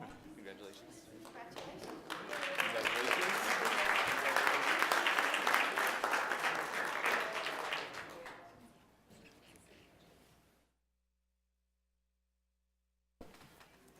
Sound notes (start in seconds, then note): 3.4 applause